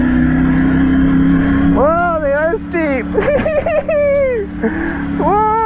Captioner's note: laughs